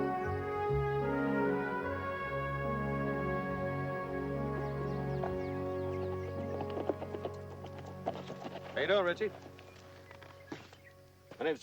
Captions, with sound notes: [horse approaches] How you doing, RIchie? My name's Jonathan Smith, I'm a new hand. Your mom sent me out looking for you. It's getting kind of late.